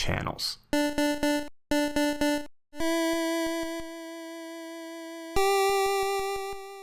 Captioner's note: pulse Wave Sounds Plays